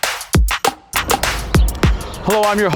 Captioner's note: birds chirping